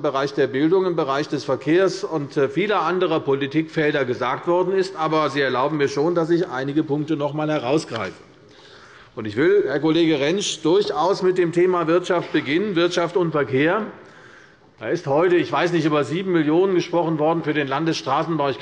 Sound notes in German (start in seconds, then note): none